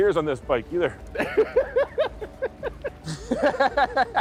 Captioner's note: both laughing